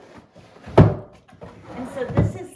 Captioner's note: drawer closes